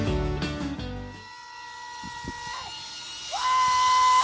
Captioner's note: whirring; screams